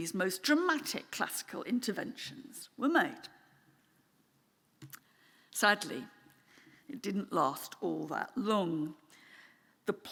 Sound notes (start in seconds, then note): none